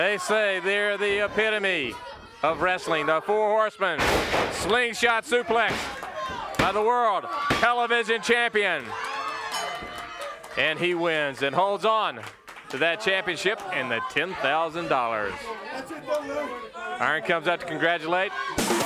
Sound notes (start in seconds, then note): 4.0 body thudding; 6.2 hands thudding; 9.5 bell ringing